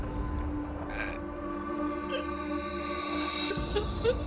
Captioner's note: Bruce groaning